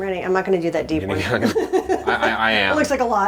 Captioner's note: laughs